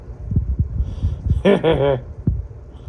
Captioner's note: laughs